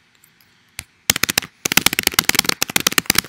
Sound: keyboard Clicking

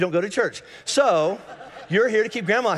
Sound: congregation laughing

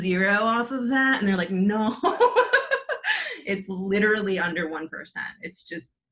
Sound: laughs

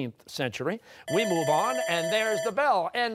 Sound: bell rings

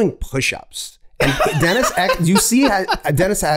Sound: Charlie laughing

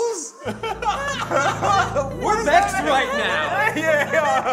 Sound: group laughs

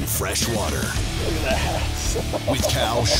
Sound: voiceover

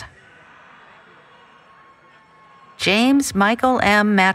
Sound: cheering

